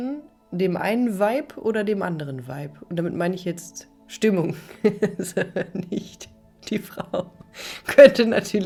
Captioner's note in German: gelächter